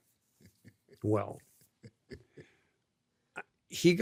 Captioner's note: laughs